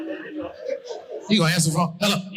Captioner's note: audience laughing